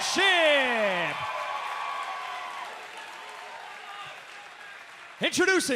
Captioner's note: crowd cheering